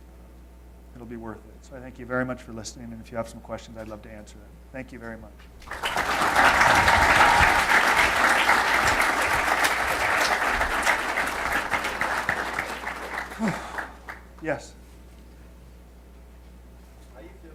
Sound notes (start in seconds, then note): 5.6 audience applause